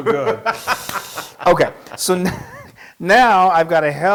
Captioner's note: laugh